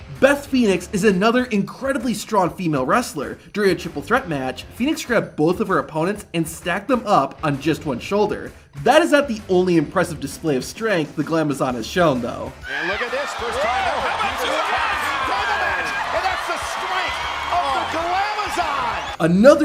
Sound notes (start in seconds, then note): 12.6 wrestler squeals